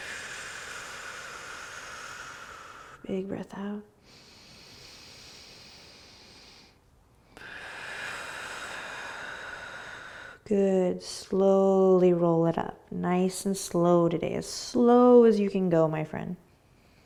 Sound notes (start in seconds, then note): 0.0 exhaling; 4.6 inhaling and exhaling